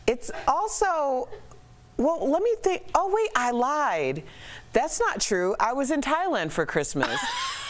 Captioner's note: laughter